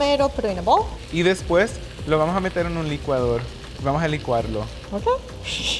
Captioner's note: speaking Spanish; laughing